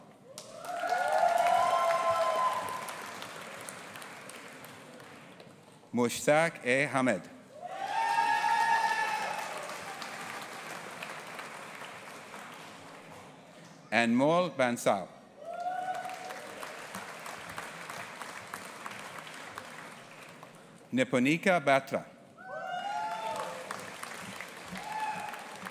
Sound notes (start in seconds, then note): 0.2 audience applauding and cheering; 7.6 audience applauding and cheering; 15.5 audience applauding; 22.8 audience applauding